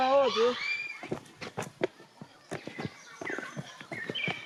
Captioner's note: speaking in foreign; footsteps sound